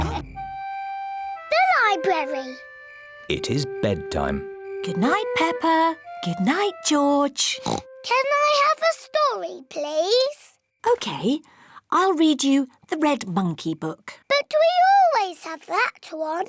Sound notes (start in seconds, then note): 7.5 oinks